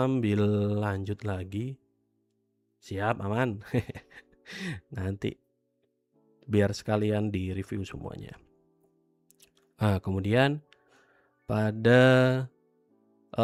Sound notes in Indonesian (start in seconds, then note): 4.2 tertawa